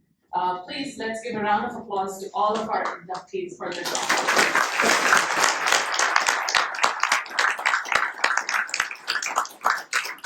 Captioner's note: applause